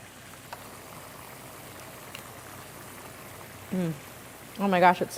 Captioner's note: pan bubbling